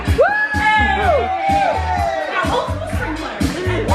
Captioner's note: players cheer